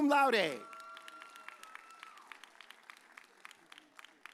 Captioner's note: audience cheers